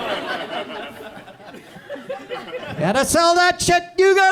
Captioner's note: audience chuckles